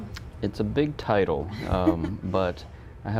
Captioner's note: laughing